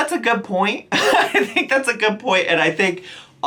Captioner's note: chuckles